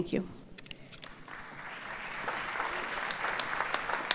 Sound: audience applauds

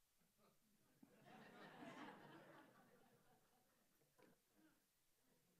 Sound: audience laughs

